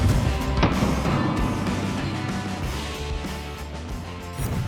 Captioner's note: rock music; gun shot